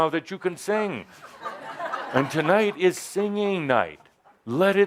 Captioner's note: laughter